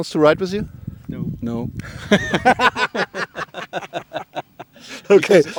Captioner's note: laughter